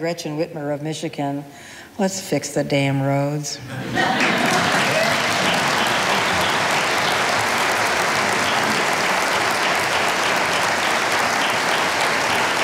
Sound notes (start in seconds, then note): 3.6 audience laughing; 3.7 audience applauding